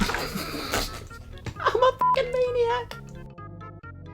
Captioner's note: beep